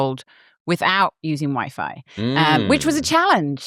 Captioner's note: laughs; hums